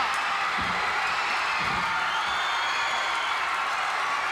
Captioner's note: crowd cheers